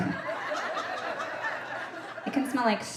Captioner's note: audience laughing